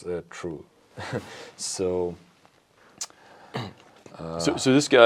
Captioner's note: laughs; sighs